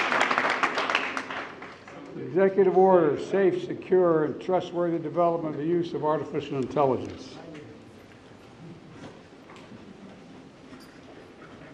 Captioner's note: applause